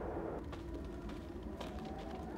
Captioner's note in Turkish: Rüzgâr esiyor